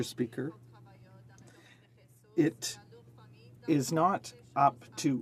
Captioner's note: some Applause